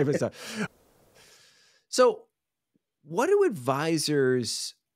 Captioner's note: laughing